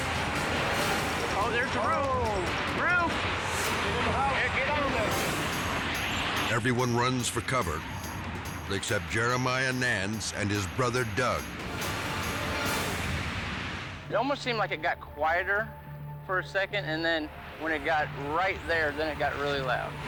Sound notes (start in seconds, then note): 0.3 tornado thundering; 3.9 dramatic music; 6.3 dramatic music; 6.3 tornado ripping; 8.5 wind howling; 11.2 dramatic music